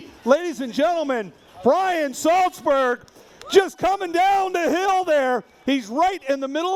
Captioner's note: screaming